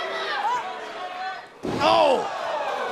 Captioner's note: cheers & boos